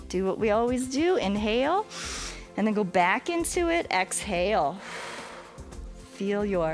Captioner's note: exhales